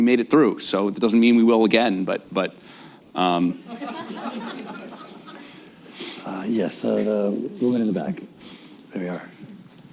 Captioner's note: laughter